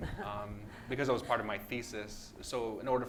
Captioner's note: laughs